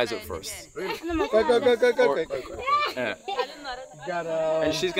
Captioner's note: chatter in Mursi